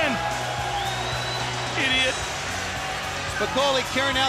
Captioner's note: crowd cheering